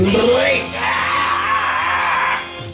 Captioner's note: laughing yet again